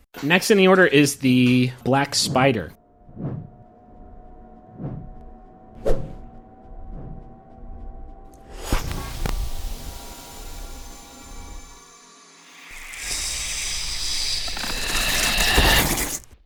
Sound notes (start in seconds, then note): 8.8 pop and fizzle; 12.4 unnerving chittering and hissing